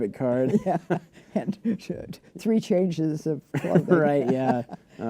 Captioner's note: laughter